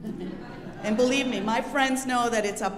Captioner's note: audience laughing